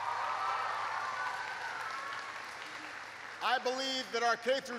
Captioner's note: applause